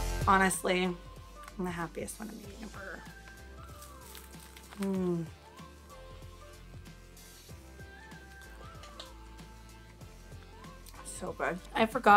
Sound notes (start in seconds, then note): 4.7 moans